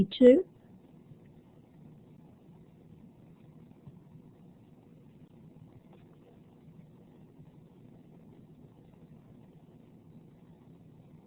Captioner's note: silence